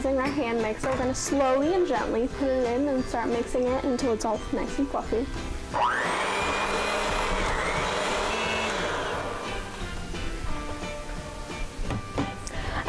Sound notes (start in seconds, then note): 8.4 mixer whirs